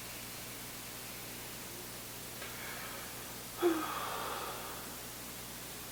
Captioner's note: exhaling; inhaling